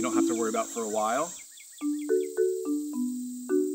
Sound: bird chirping; crickets chirping

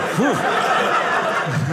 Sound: audience laughing

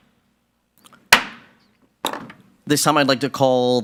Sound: gavel thumping

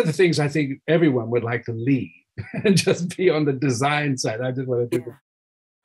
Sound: laughing

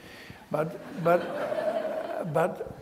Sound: audience laughs

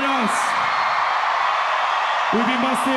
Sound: crowd cheers

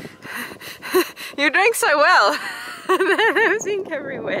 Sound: laughing

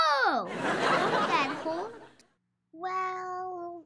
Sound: audience laughs

